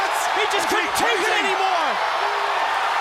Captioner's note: crowd cheering